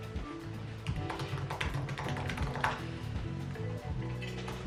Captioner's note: keyboard clicking